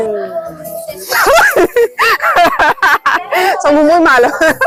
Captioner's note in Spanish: Risas